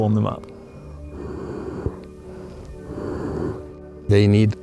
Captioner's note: breathing gently